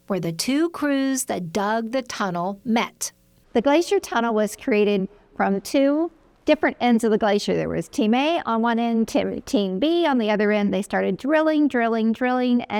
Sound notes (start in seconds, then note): none